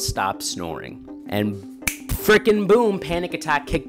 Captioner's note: snaps